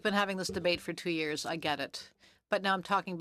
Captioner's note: speaking French